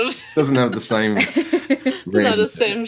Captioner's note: laughs